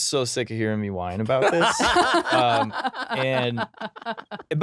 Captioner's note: laughing